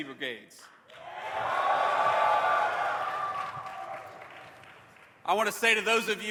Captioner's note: cheers